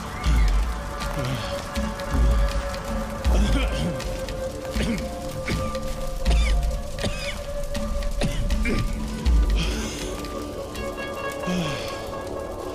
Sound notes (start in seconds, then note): 4.7 coughing